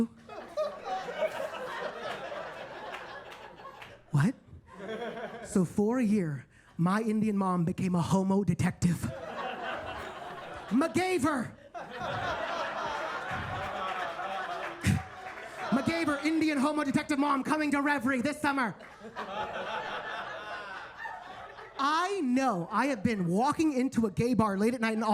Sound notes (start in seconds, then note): 0.4 attendees laugh and clap; 4.6 attendees laughing; 9.1 attendees laughing; 11.8 attendees laugh and clap; 18.8 attendees laughing